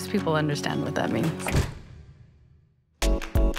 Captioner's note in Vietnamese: tiếng đóng cửa